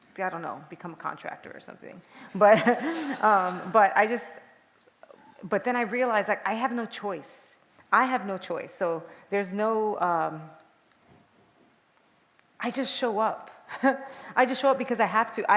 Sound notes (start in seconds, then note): 2.4 laughter